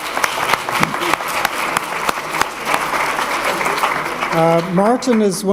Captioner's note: applause